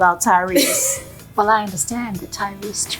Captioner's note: laughing